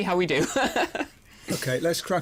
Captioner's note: chuckles